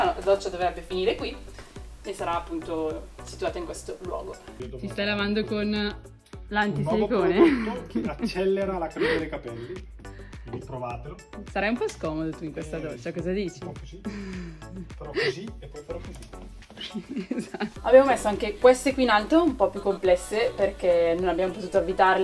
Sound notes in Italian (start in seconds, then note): 7.3 risata; 16.7 risata